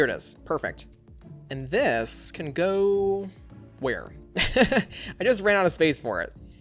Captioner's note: laughs